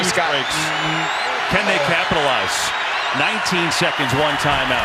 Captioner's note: honk